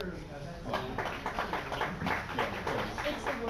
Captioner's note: applause from other room